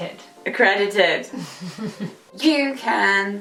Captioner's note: chuckles